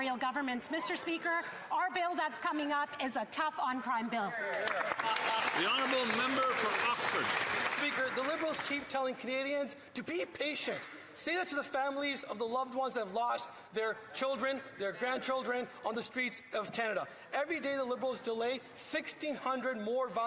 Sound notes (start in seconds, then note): 8.9 some Applause